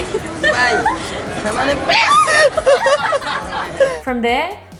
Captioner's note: laughing